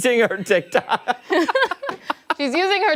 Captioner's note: laughter